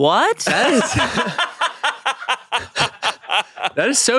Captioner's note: everyone laughs